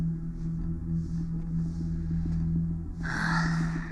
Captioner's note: sighs